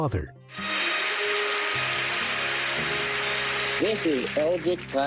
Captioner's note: triumphant music; crowd applauding